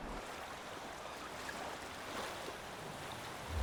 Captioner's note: waves lapping